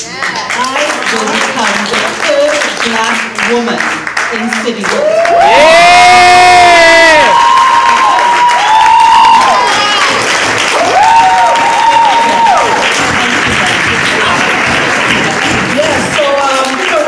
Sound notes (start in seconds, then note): 0.0 applause; 4.8 cheers